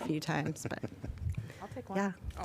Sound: laughter

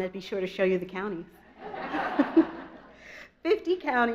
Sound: audience laughs

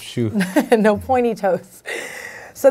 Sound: laughing

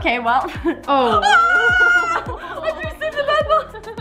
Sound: screams

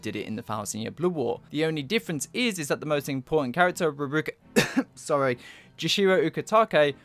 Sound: ahem

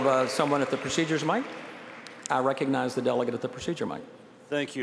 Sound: applause

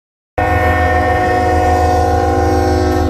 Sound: loud train noise

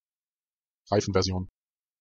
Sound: fast Pronunciation

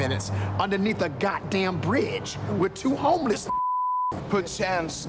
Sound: beep

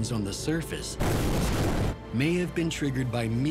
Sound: explosion

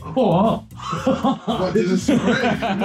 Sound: laughing

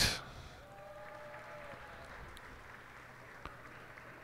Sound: cheers and applause

